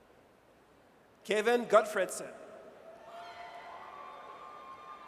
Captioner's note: audience cheers